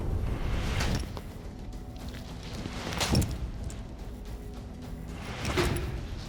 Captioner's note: chopping sound